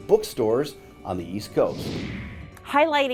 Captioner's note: computer whooshing